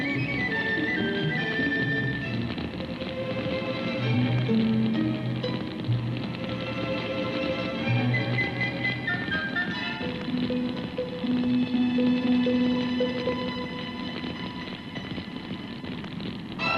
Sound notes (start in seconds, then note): 2.2 flames crackle; 2.8 tense music